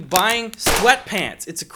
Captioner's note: gunshot